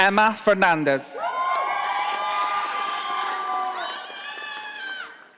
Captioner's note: audience applauding